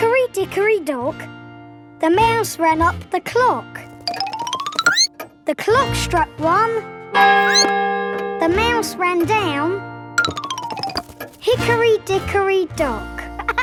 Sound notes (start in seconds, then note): 7.4 squeaks; 7.4 clock chimes